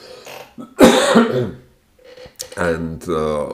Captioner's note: coughs